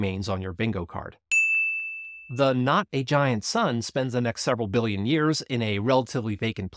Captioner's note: bell dings